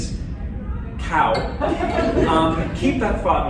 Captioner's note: laughter